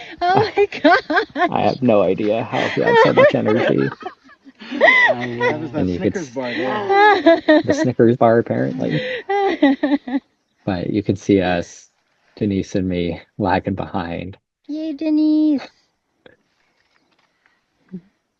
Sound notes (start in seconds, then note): 4.1 laughter